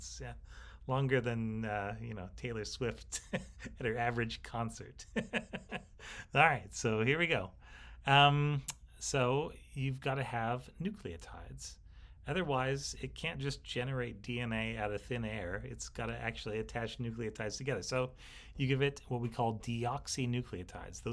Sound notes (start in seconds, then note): 3.1 instructor scoffing; 5.0 instructor laughing